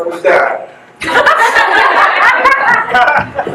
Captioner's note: guests laugh